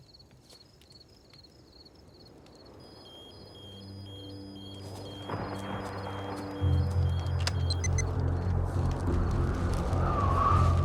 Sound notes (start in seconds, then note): 2.8 alarm rings; 3.1 strong wind blows